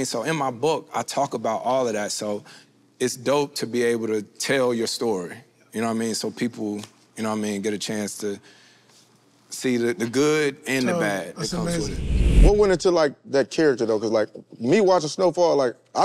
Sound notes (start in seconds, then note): 11.6 wind whooshes